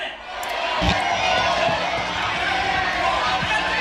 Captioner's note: cheering